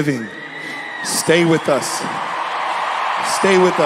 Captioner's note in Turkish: Seyirciler neşeleniyor